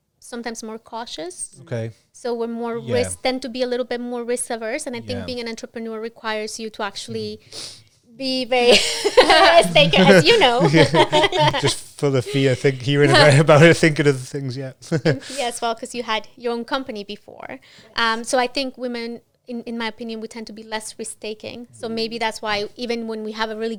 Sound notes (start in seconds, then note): 9.8 laughs